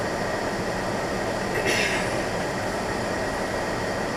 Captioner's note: clears throat